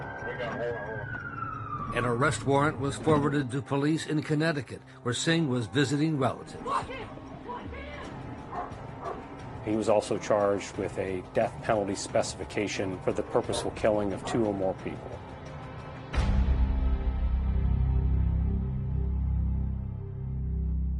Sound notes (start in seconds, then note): 6.6 dog barking; 6.6 officer shouting; 15.2 tense music fades